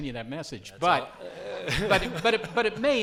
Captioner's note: laughs